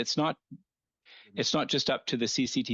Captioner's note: speaking French